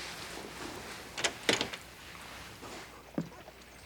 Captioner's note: door opens